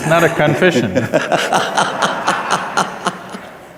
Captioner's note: laughter